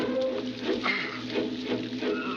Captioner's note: chirping; grunting